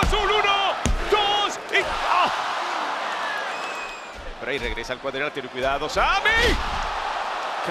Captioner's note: applause